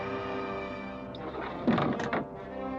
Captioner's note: tense, dramatic music; door sliding open